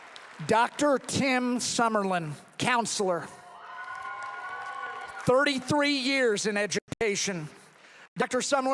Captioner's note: applause